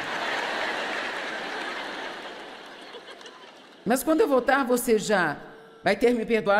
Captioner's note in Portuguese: audiência ri